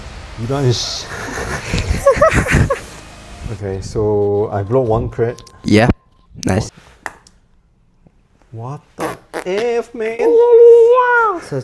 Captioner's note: laughter